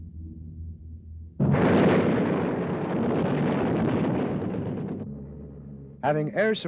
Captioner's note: explosions